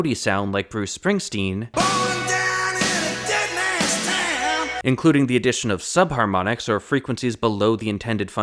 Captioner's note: bang